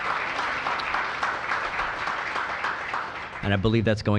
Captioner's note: cheers and applause